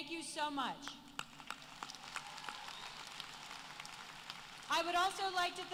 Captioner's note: applause